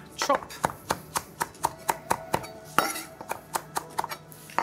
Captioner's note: knife chopping